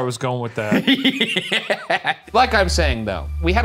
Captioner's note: laughing